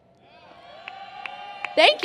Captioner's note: cheers